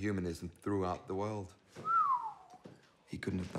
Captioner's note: partner whistles